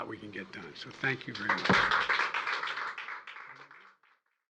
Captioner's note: applause